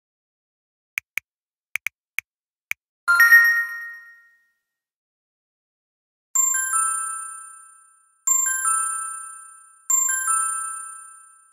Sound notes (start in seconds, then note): 1.8 typing; 3.2 ding!; 6.4 ding!